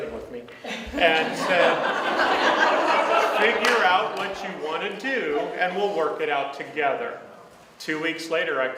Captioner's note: audience laughs